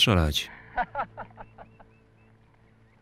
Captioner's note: laughing